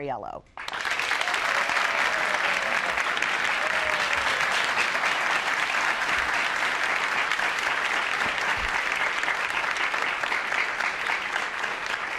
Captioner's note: applause